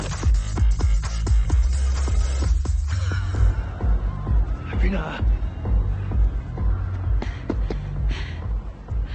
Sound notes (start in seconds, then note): 4.3 speaking foreign language